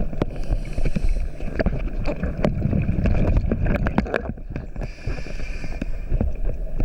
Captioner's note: water bubbling; air hissing